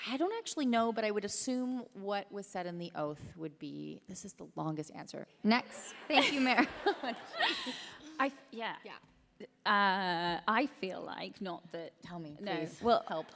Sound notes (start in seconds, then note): 5.8 laughter